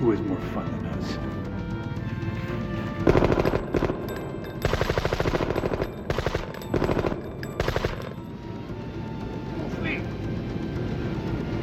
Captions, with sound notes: - Who has more fun than us? (guns firing) - Full speed.